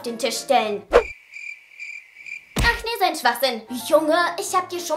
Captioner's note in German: Grillenzirpen